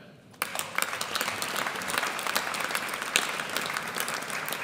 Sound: audience applauds

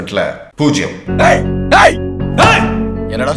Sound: shouting

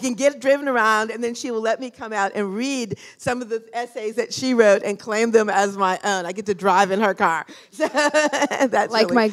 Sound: laughter

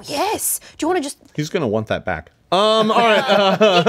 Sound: laughs

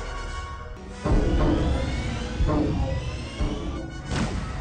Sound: eerie siren; shield sound effect

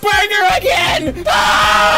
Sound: screams of the pickled forsaken

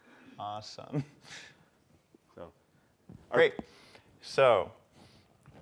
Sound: laugh

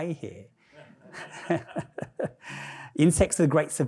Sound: all laughing

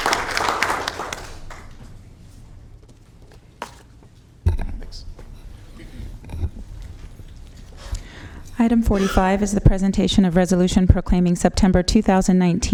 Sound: applause

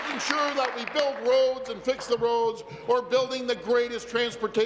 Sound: applause

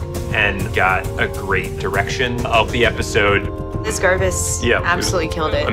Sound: none

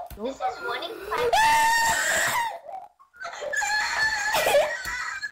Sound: screams

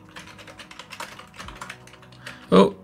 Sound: keyboard clacks

